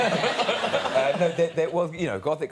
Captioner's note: audience laughing